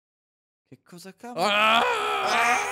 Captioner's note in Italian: aaahhh